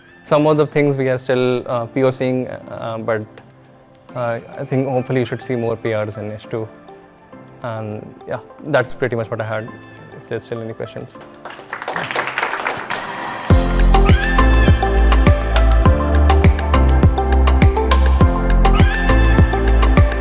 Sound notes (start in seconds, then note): 11.2 audience applauding; 13.5 upbeat music